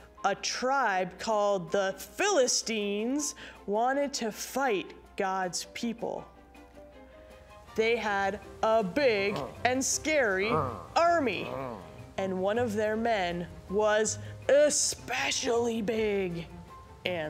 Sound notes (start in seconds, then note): 10.4 soldiers grunting